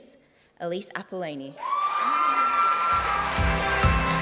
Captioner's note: cheering, applause